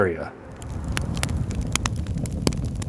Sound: fire crackling

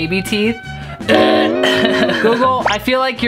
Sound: chuckling

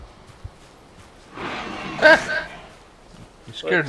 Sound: scream

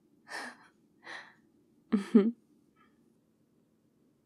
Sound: laughs

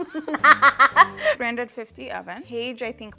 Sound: laughing

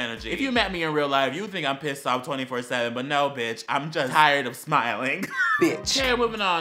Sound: wheeze

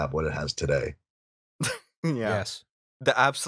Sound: laughter

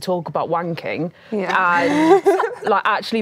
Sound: laughs

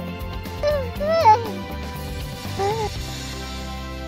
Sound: robotic yawn and cooing

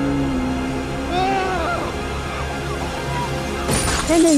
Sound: distant bell tolling; screams; glass breaking

